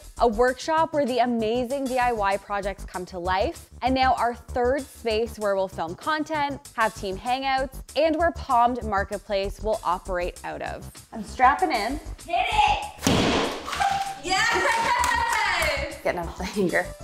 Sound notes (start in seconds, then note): 13.0 sledgehammer bangs; 13.9 chuckles